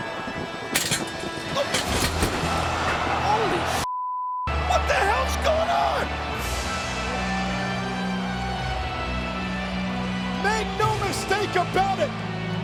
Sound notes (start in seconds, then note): 0.7 metal clanging; 3.8 beep; 8.0 dramatic music continues